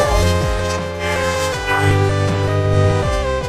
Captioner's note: both grunting; growling